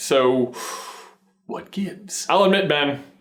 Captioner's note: exhale